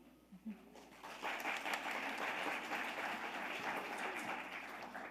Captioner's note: audience applauding